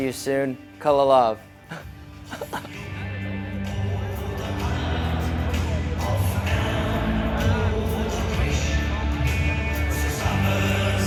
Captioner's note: German phrase